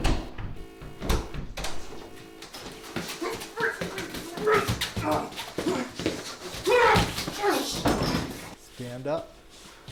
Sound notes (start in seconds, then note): 0.0 door opens; 2.7 struggling noises